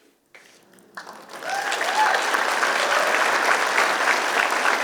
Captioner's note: applause